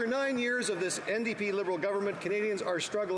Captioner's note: some Applause